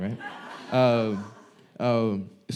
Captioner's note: audience laughing